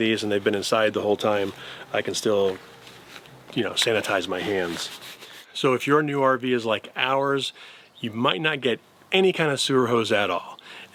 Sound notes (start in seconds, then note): none